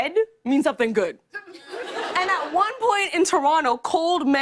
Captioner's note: laughter